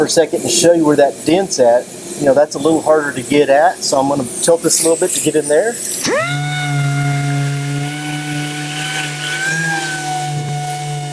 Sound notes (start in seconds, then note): 6.2 sander hums